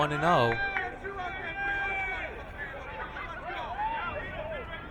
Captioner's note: crowd cheering